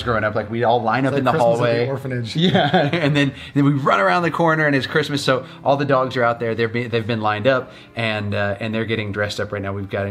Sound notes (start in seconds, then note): 2.3 laughs